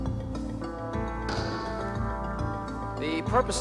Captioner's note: gavel banging